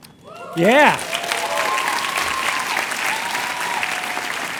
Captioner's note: cheers and applause